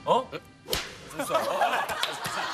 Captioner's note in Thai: ปรบมือ!